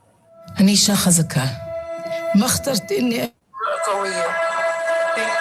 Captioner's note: speaking in foreign language